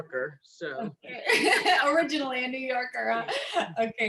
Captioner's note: laughter